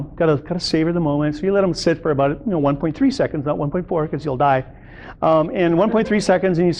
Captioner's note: audience laughter